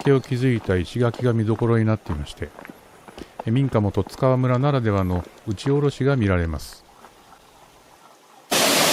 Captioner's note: falling wall of the roof eaves